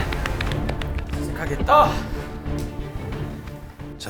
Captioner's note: hearts pounding